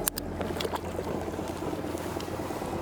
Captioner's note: metal clicking; motor droning; water splashing; gentle music continues